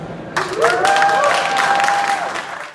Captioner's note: applause